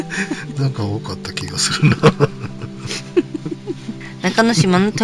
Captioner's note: laughs